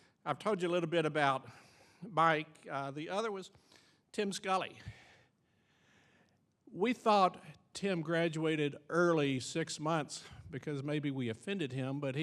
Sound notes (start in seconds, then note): none